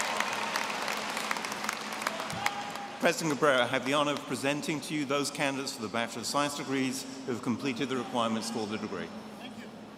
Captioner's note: cheering